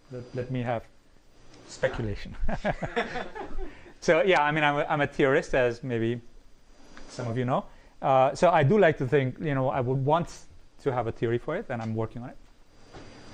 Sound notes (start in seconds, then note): 2.4 laughter